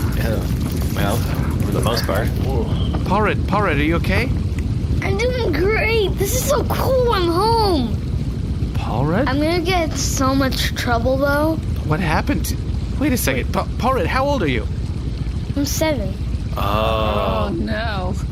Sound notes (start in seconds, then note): 3.8 now with a child's voice